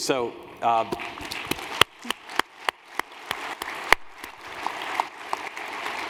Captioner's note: applause